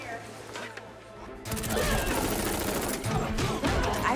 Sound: rapid gunfire

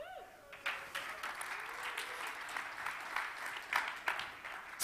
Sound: audience clapping

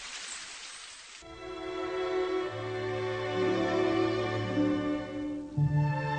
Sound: rain

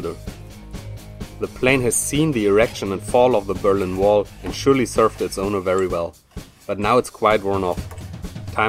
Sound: scratching

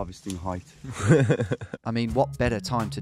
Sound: laughing

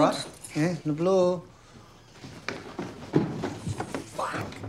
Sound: russian

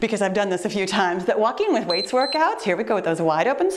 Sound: timer beeps

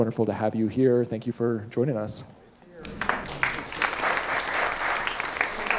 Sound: audience applauding

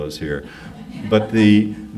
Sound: audience laughs

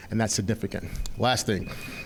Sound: timer beeping

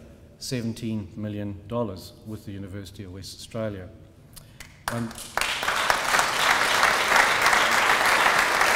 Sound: applause

